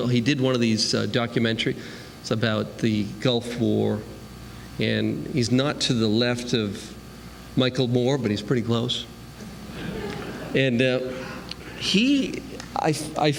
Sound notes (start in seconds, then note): 9.6 laughter